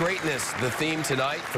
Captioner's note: applause